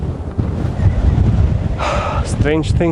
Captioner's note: winds blowing